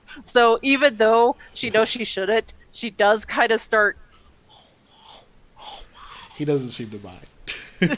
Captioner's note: makes nomming sounds